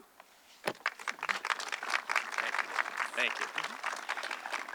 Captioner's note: audience clapping